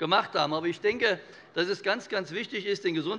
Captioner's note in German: none